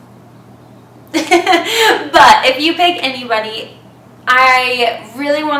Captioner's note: laughs